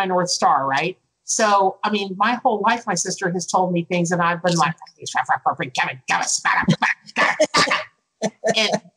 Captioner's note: angry noises